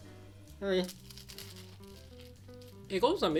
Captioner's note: cracker crunches